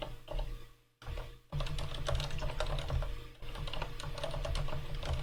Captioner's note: keyboard keys clanking